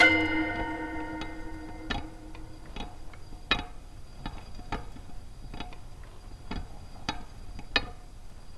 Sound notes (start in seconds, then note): 2.9 machinery continues clanking